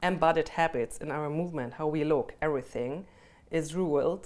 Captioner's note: none